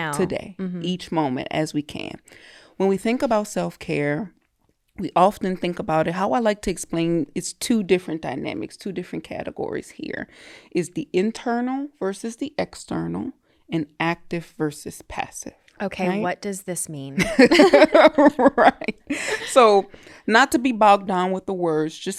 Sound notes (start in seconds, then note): 17.2 both laughing